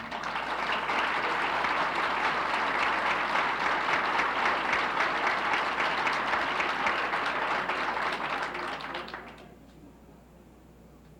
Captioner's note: applauses